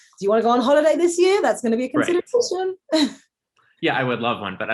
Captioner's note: laughs